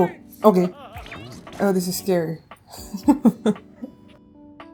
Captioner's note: laughing